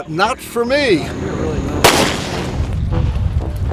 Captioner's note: gunshot